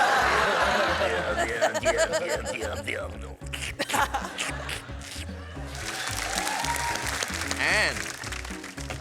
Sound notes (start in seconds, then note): 0.0 laughter; 4.7 squelching noises